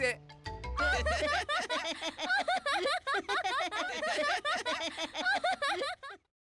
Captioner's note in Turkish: Gülme sesleri